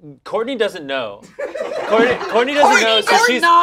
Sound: group laughs

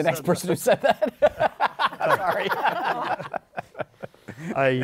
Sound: laughs

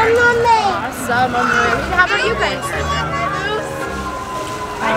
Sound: atmospheric chattering

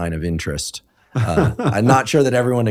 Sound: laughing

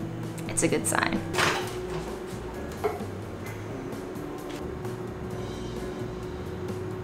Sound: jazzy instrumental music; microwave door pops

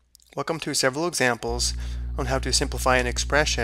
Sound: voiceover

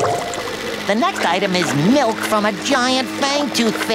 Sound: none

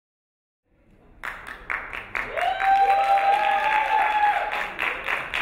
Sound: crowd clapping and cheering

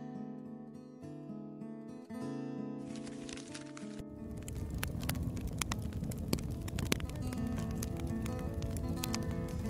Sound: burning paper noise

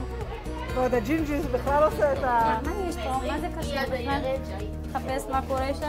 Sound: medics speak foreign language

